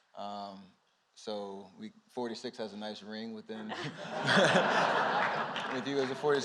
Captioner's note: laughter